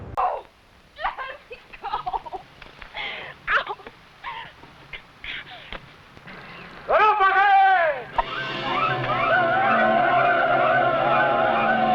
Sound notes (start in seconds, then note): 0.2 cries; 6.2 man shouting in foreign language; 8.5 men shouting